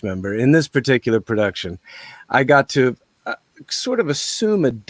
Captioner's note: none